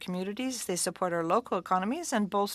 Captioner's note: speaking French